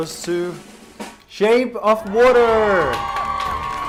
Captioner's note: clap